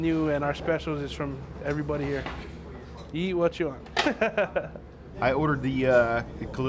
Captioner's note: laughs